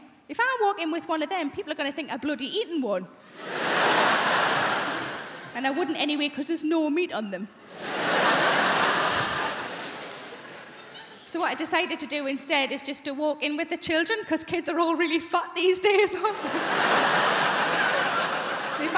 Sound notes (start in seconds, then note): 3.3 crowd laughing; 7.7 crowd laughing; 16.3 crowd laughing